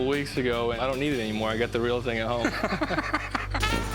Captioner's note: laughs